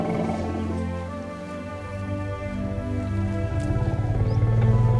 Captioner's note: rumbling; animals calling